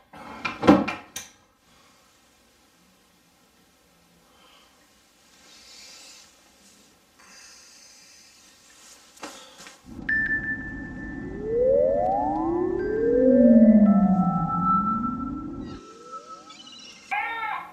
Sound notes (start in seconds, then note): 7.2 breathing deeply; 9.8 high pitch sound